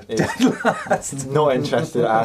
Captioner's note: laughing